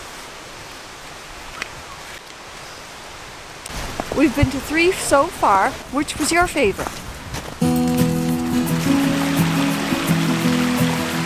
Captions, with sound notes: We've been to three [falls] so far. Which was your favorite?